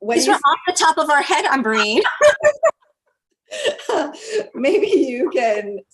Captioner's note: laugh